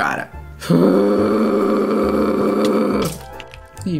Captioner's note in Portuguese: resmunga